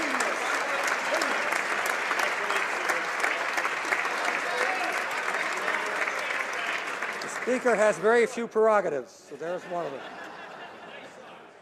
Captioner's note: applause